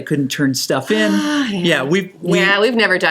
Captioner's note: sigh